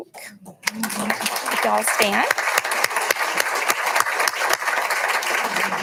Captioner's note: audience applauding